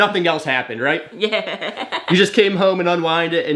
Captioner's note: laughs